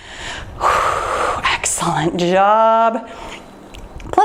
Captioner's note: exhales